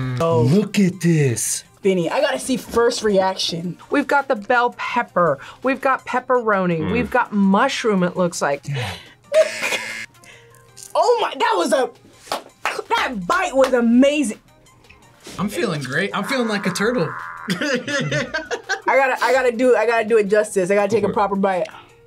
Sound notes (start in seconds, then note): 9.6 buzzer; 12.2 claps; 16.1 laughs